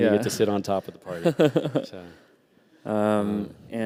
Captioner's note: laughter